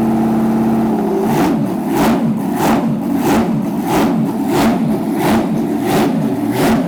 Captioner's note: engine revs